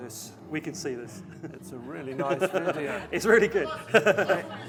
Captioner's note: laughing; audience members murmuring